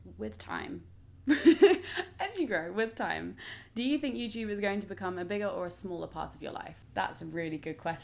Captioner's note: laughs